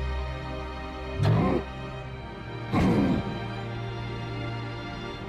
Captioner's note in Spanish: gruñendo demoníacamente